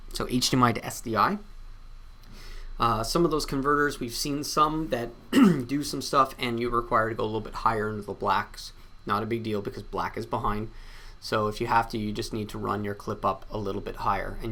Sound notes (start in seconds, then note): 5.3 clears throats